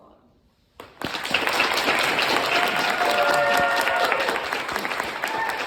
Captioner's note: applause and cheers